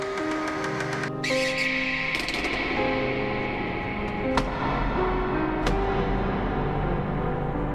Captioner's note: door squeaking and tapping